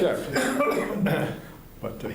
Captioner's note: laughter